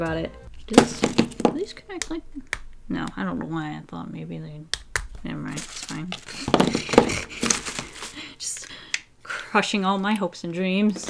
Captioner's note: whispers